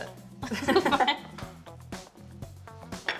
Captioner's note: laughter